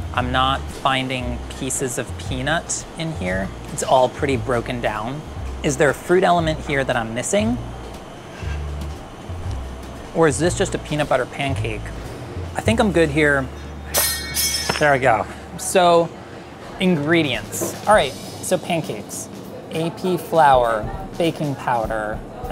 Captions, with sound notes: I'm not finding pieces of peanut in here. It's all pretty broken down. Is there a fruit element here that I'm missing... or is this just a peanut butter pancake? I think I'm good here. [metal utensil clangs] There we go. So, ingredients. Alright, so pancakes, AP flour, baking powder.